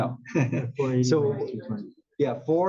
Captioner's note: laugh